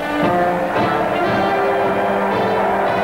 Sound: crowd cheering; bright lively music

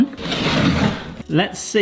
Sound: wooden board scrapes on counter

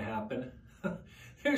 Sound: chuckles

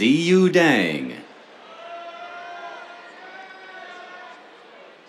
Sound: cheers

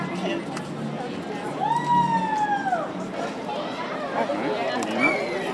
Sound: crowd

